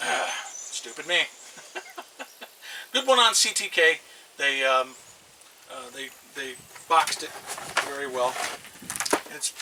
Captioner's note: laughs